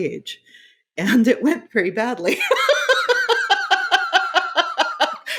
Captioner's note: laughing